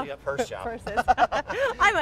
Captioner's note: laughter